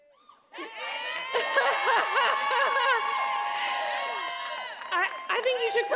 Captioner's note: attendees applauding and cheering